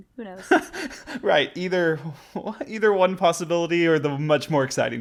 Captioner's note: laughs